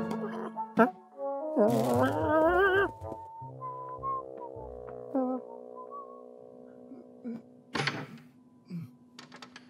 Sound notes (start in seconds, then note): 1.1 foot steps; 4.0 Simon whistling